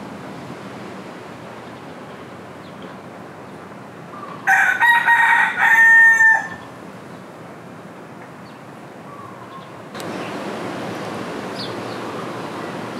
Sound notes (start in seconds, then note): none